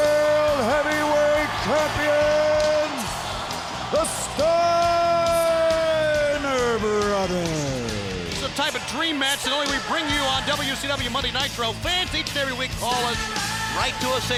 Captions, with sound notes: world heavyweight champions! The Steiner Brothers! (crowd cheering) It's the type of dream match that only we bring you on "WCW Monday Nitro." Fans each and every week call us, write to us,